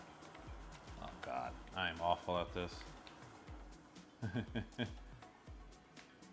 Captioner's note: chuckles